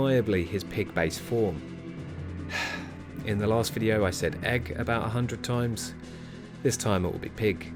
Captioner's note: sigh